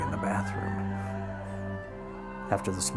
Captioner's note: Asenath crying